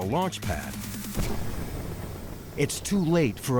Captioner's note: booming